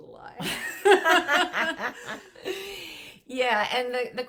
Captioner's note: laughs